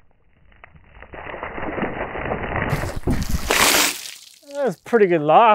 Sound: water splashing

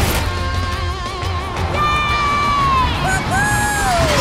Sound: cheering

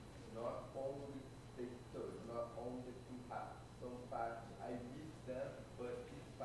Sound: speaking faintly

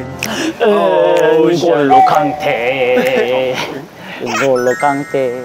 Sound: football player's chant

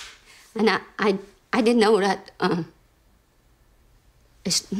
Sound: clapping her hands

